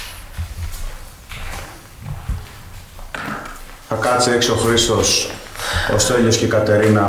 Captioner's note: clap